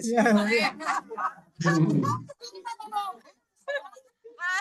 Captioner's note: attendees laughing